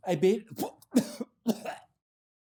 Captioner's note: coughing